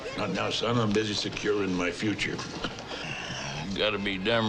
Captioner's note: chuckles